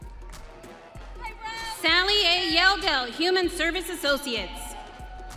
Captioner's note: audience cheering